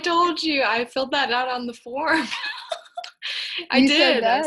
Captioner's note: laughing